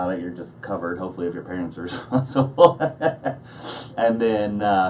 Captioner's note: laughs